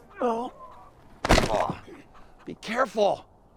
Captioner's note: body crashing